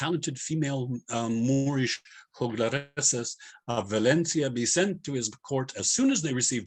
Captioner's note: non-english